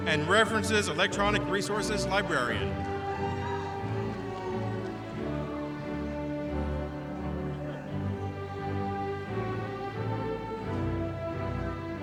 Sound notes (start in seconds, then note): 3.0 audience cheering; 5.4 orchestra music continues